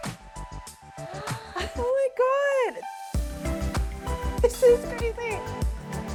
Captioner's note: gasps